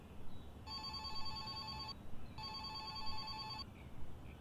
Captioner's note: telephone ringing